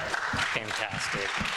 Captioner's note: people clapping